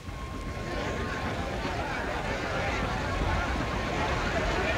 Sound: crowd chatter

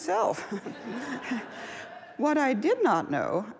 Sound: laughs

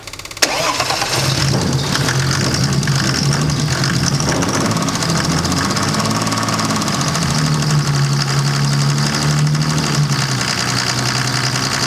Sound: mercedes-benz engine sings

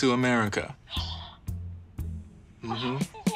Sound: gasps

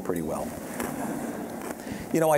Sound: audience chuckling

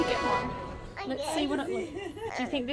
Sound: woman laughing

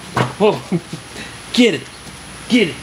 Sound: laughs

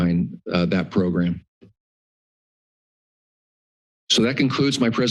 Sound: pause

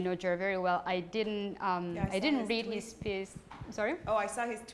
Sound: voiceover; voiceover

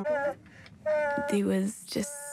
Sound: groans

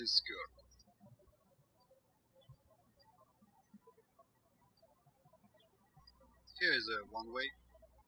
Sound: birds chirping

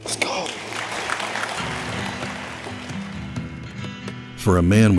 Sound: audience applauding

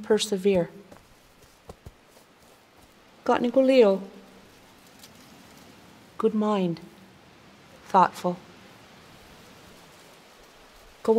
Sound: Speaking Kanienʼkéha

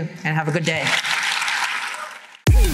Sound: applause

